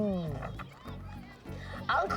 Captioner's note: kids chattering